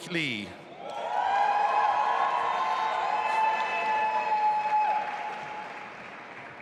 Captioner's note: audience applauding and cheering